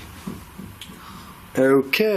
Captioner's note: tapping